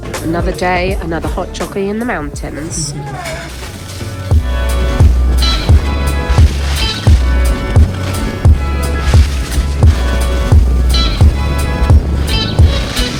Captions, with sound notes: Another day, another hot choccy in the mountains. (upbeat music) (skis scrape)